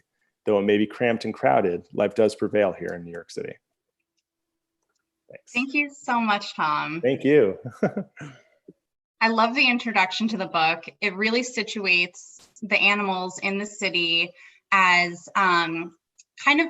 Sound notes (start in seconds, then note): 7.6 laughter